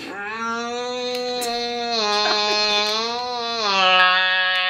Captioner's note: exclaiming